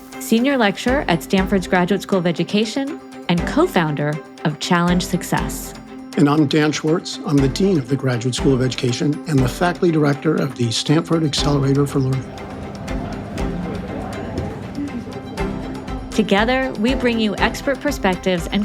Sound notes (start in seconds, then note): 12.9 people chattering